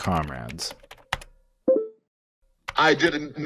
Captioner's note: typing noises